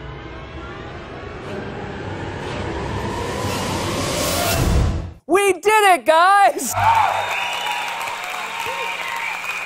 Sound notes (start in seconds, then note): 6.7 audience applause